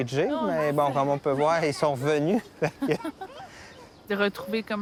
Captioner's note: laugh